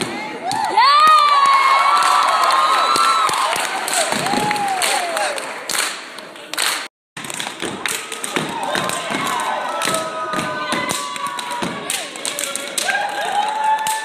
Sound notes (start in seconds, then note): 0.4 cheering